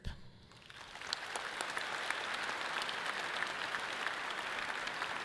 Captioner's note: audience clapping loudly